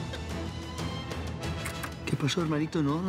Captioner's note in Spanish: sonido al abrir la puerta